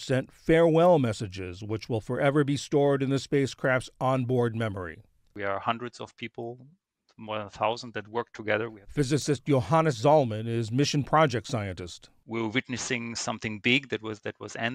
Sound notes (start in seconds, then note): 9.0 voice-over